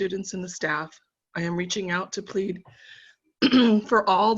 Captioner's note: coughing